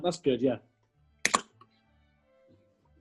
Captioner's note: opens can